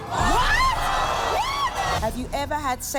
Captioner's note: crowd shouting